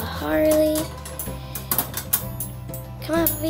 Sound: cage clanging

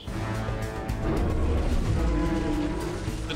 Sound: roars

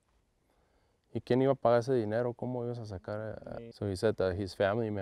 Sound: agent speaking Spanish

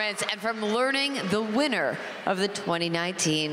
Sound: cheers and applause

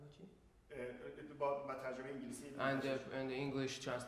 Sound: speaking in farsi

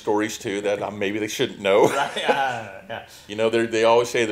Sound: laughs

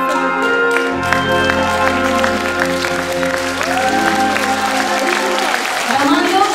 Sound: applause

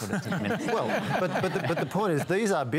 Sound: laughter

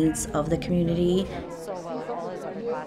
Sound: crowd chattering

